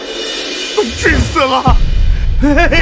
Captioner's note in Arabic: سعال، سعال